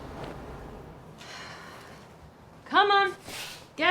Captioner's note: Fern sighs